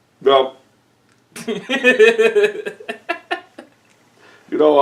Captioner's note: giggling